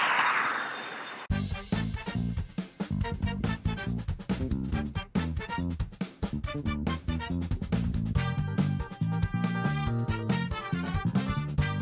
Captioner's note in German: Beifall